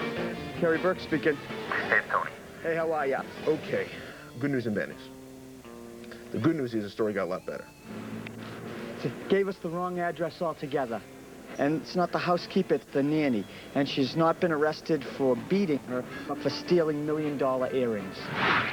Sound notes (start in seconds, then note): 1.7 on phone